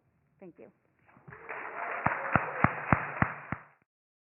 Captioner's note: audience applause